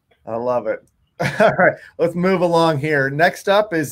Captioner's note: laughing